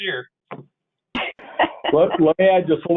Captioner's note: laughs